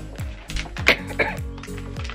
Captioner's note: coughing